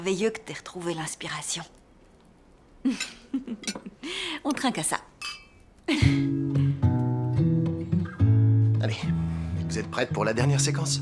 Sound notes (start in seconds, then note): 2.8 small laugh